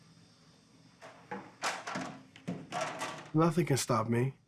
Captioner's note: equipment clattering